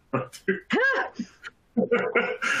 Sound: chuckles

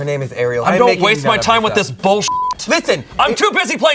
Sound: beep; yelling

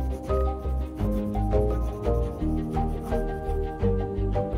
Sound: gentle music continues; pen scratching

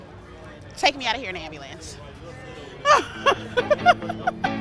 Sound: laughs

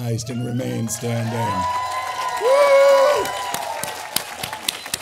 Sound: all applauding

